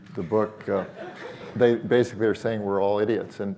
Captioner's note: audience laughing